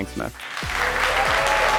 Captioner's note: audience applauding